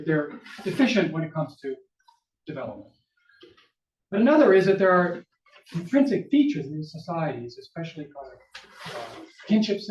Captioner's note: papers ruffle